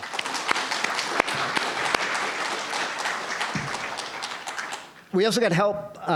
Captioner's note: applause